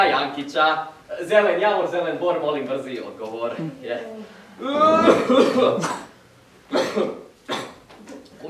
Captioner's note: fake cough